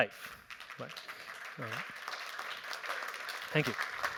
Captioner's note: applause